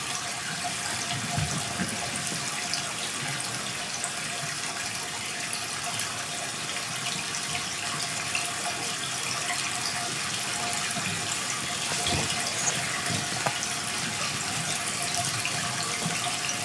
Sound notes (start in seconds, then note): 1.2 water trickling continues; 10.9 water trickling continues